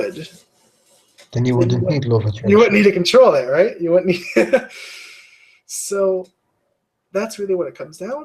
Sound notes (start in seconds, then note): 6.1 laugh